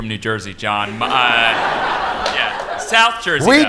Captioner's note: laughter